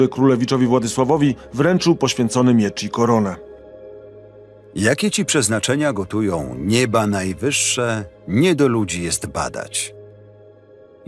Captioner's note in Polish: Lektor